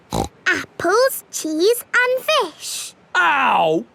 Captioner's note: snorts